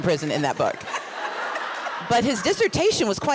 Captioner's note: laughs